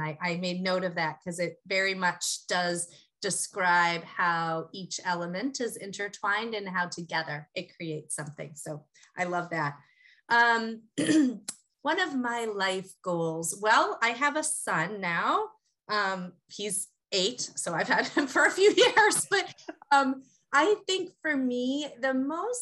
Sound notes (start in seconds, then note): 10.9 cough; 18.0 laugh